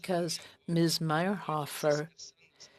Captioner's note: speaking French